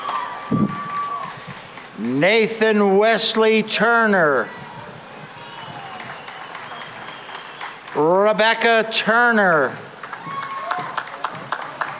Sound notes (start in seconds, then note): 5.2 applause